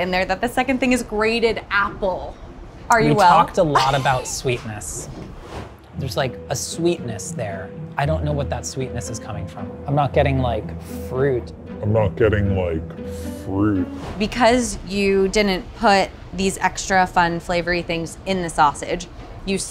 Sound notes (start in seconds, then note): 5.3 screen swooshing; 11.9 voice deepening and slowing